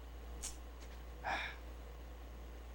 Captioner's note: sigh